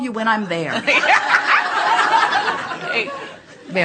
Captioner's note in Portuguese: A platéia ri